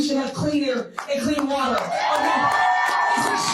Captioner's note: crowd cheering